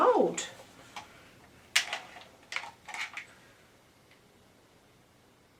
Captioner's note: clattering and clicking continues